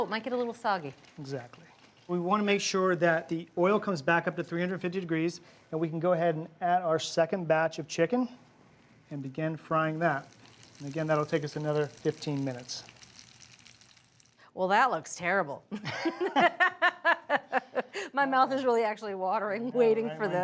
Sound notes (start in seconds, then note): 15.7 Julia and Bryan laugh